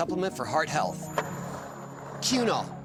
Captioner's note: skateboard wheels roaring